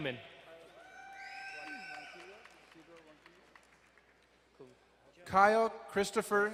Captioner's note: crowd cheering and applauding